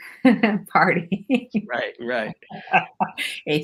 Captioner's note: laughs; chuckles